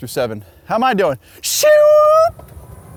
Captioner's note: low Pitched Screaming